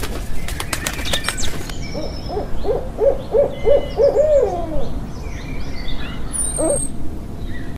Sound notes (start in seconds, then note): 0.0 wings whooshing; 0.0 birds chirping; 1.9 owl hooting